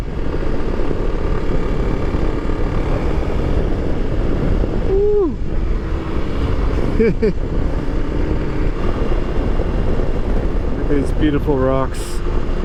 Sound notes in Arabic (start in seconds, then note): 6.7 يضحك